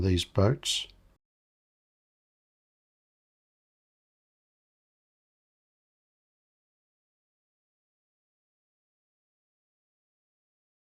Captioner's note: silence